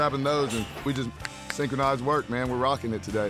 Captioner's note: snaps fingers